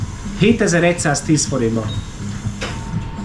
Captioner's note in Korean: 헝가리어